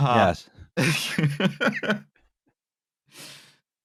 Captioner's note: laughs herself out